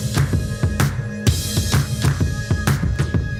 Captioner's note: none